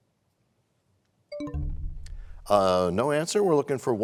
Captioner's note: bell chimes, time expired